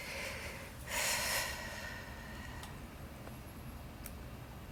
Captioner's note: sighing